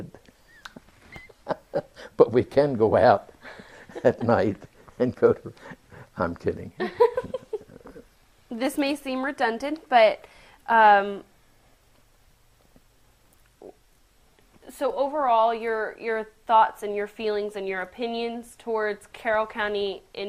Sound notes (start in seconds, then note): 0.2 laughs; 6.8 laughter